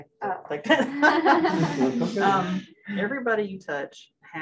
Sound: laughter

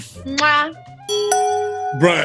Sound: dinging sound

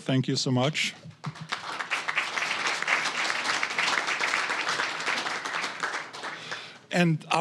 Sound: applause

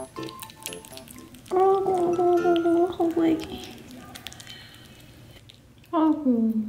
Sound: crunch! Munch!

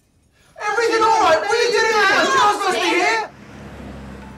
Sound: everyone screaming at once

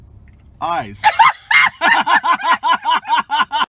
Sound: laughter

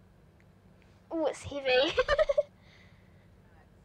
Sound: laughs

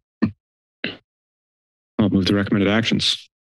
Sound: silence

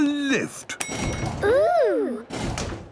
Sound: lift pings

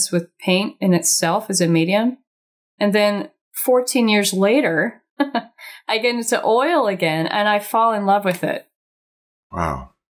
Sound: chuckles

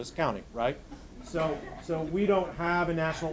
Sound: audience laughing

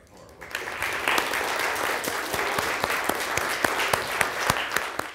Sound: audience applauding

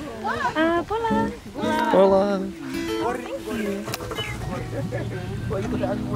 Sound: speaking in foreign language

